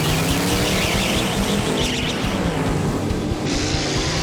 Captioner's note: tires squealing